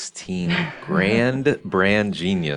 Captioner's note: laughs